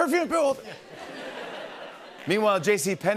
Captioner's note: laughter